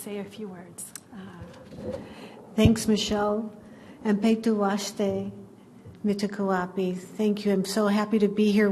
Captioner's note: native American language